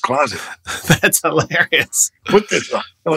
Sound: laughter

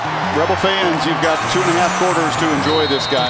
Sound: voiceover

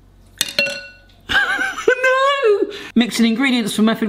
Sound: laughs

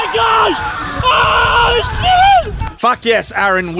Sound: crowd Screaming

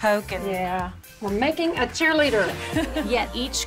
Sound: laughter

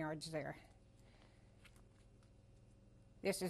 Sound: pauses for 3 seconds

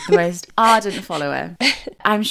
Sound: laughing

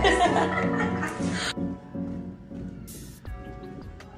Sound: both laughing

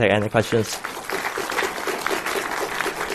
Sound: applause

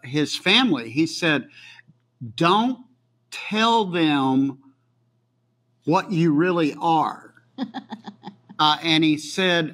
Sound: laughs

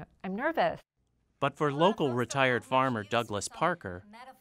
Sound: voiceover

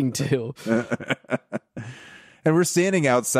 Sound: laughing

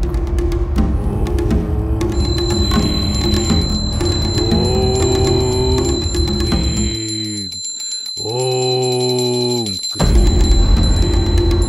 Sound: chanting

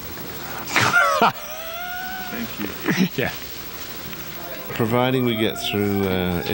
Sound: laughing

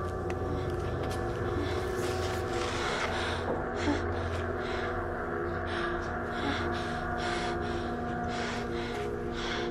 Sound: panting

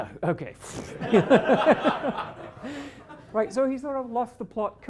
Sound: laughter

